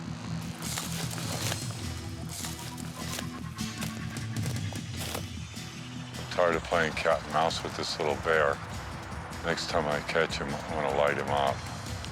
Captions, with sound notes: (bushes rustling) I'm tired of playing cat and mouse with this little bear. Next time I catch him, I'm gonna light him up.